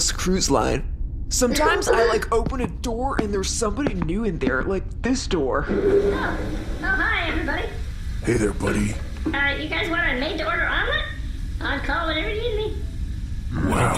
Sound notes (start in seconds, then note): 0.8 Tiny Toots chuckles; 5.6 door opens